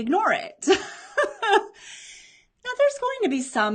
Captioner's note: laughs